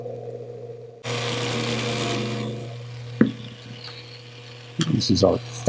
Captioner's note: polisher grinding